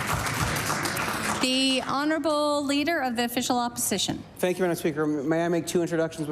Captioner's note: applause